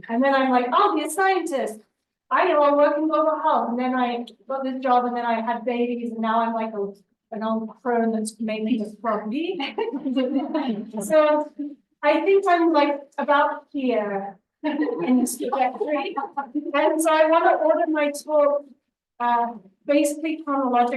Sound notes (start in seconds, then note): 9.7 laughter